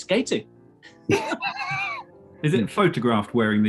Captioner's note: sniggering